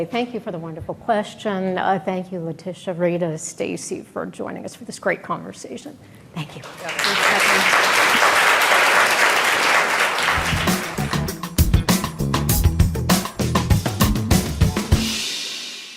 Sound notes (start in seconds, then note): 6.6 crowd clapping; 10.0 upbeat music